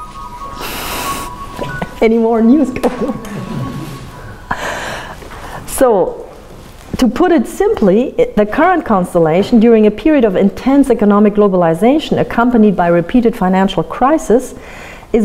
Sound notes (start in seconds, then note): 0.8 phone rings